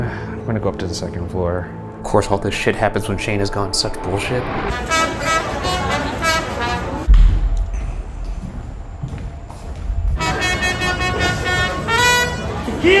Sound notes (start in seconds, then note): 4.6 staccato jazzy music; 7.0 footsteps padding; 10.1 staccato jazzy music continues